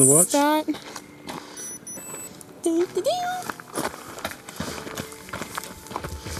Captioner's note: watch beeps